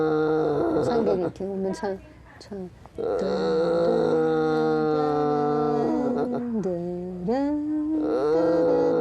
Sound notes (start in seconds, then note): 3.0 grandmother murmuring; 3.0 humming